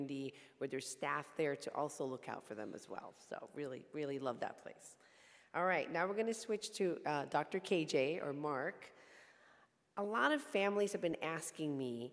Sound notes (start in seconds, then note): none